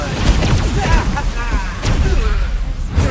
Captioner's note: FanBot laughs, gloating